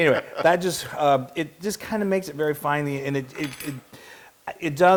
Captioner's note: laugh